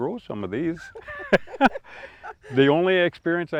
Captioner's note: laugh